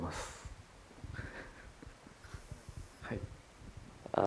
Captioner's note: Kore-eda laughs